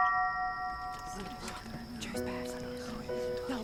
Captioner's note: whispering